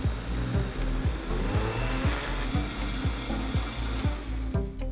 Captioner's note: upbeat music; blender whirring; upbeat music